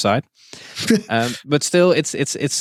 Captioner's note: chuckles